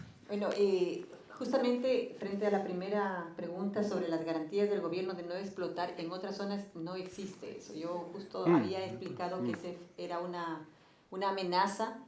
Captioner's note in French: Espagnol